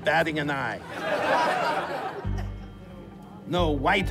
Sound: laughter

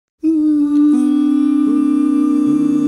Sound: humming

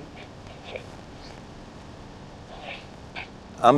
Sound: sniffing

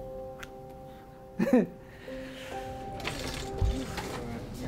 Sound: chuckling

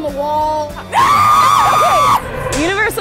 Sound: screaming

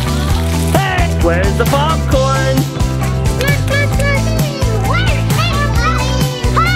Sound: children screaming playfully

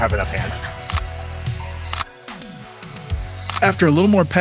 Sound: upbeat music; shutter clicking

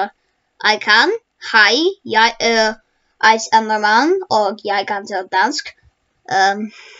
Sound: Danish

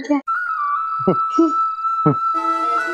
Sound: chuckling

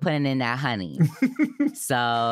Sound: chuckles

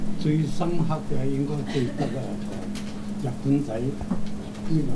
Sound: speaks in foreign language

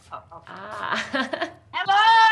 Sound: laughs

